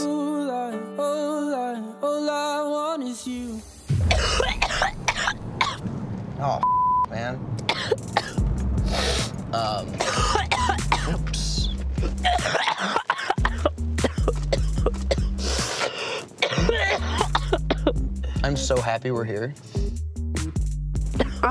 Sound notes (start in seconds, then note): 4.0 coughs; 6.6 beeps; 7.8 coughs; 11.9 coughs